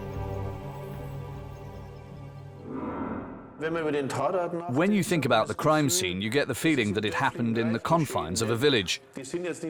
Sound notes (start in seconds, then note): 3.9 speaking German